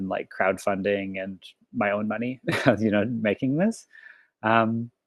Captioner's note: laughs